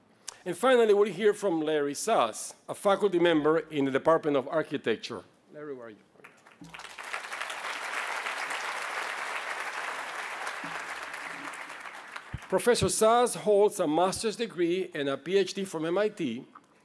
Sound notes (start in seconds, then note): 6.2 applause